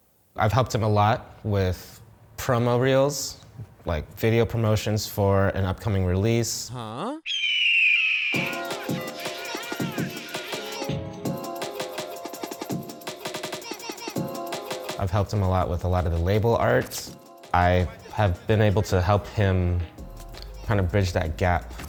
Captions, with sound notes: I've helped him a lot with promo reels like video promotions for an upcoming release. Huh? [red-tailed hawk screech] [jungle music] I've helped him a lot with a lot of the label art. I have been able to help him kind of bridge that gap